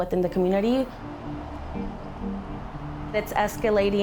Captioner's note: traffic rushing